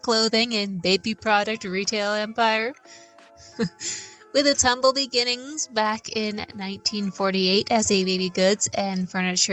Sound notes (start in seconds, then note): 3.4 laugh